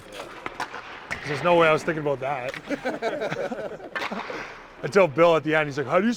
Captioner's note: Dvorak and Kirby Dach laugh